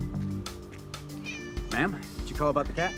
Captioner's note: cat meows